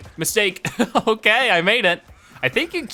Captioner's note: laughing